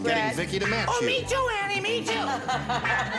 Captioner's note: laughs